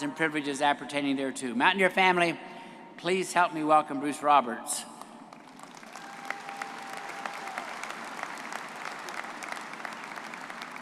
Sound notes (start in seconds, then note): 5.4 audience applauding and cheering